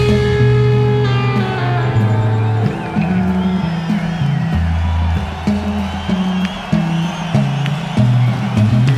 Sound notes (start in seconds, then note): 0.0 audience cheers; 2.0 audience applauds